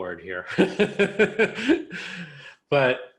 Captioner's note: person laughs